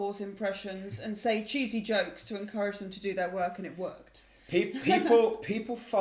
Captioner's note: laugh